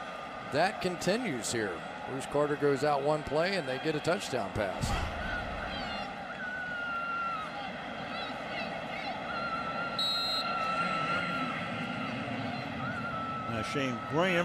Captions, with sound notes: So that continues here. Bruce Carter goes out one play. And they get a touchdown pass. [crowd shouting] [whistle] [pa announcement]